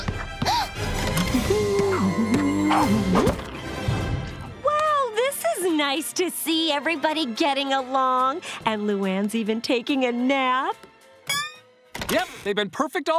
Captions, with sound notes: [gasping] [humming] Well, this is nice to see everybody getting along. And Luan's even taking a nap. Yep, they've been perfect all day.